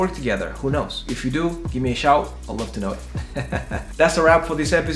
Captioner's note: laughs